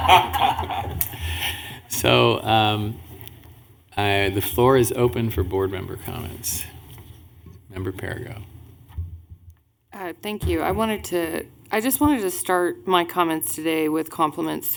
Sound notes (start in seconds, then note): 0.0 laughter